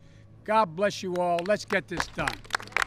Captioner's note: applause